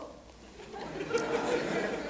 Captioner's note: laughter